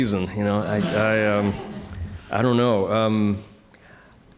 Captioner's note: audience chuckling